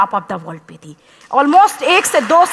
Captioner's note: applause